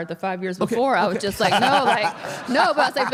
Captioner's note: AJ laughs